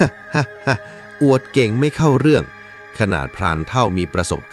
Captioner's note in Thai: เสียงหัวเราะ